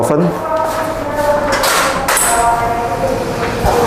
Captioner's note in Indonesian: suara pintu